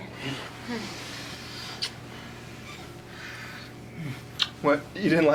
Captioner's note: kissing